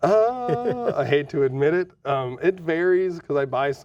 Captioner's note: laughing